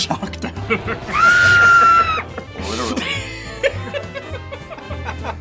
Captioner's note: Maggie screaming; the guys laughing